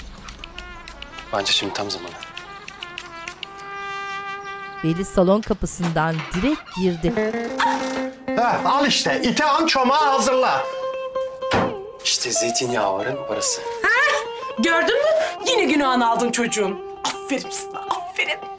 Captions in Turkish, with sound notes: Bence şimdi tam zamanı. (Kapı açılma sesi) (Kapı gıcırdama sesi) Ah! Hah, al işte, "İti an çomağı hazırla." İşte zeytinyağların parası. Hah, gördün mü? Yine günahını aldın çocuğun. Aferin sana, aferin.